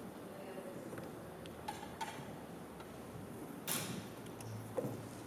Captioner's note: chatter